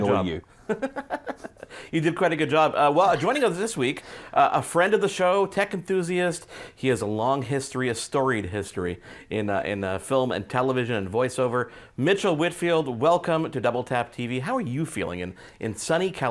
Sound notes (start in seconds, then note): 0.7 laughing